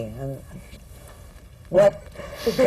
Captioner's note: laughter